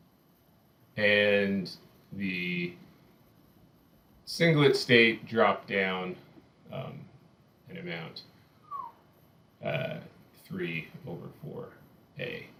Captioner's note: whistles